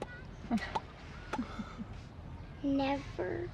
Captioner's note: both laughing